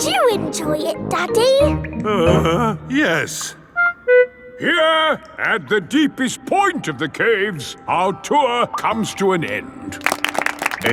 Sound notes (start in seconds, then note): 2.0 groans